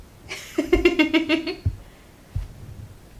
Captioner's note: laughs